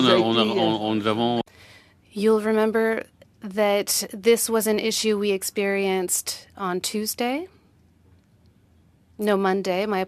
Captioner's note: speaking French